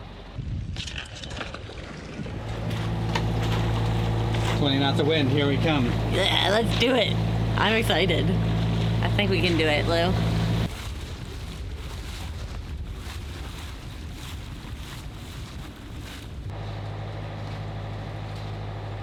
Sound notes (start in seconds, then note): 12.2 lapping waves